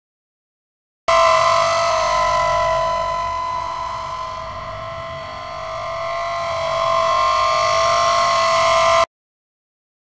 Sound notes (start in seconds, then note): 1.2 sound of metal scrape